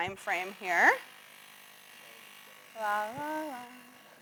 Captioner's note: bike pump whirs